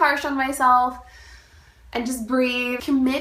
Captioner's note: inhale